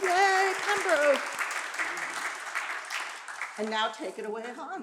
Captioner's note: applause